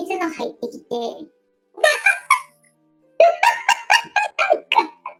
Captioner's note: laughs